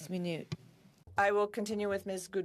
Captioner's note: speaking French